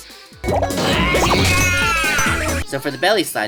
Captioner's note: Jaw screams in pain